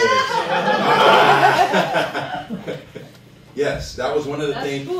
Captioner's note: laughter